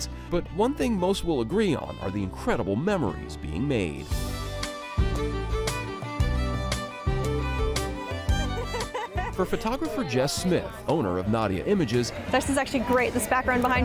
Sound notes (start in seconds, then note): 4.4 jovial music continues; 8.1 laughing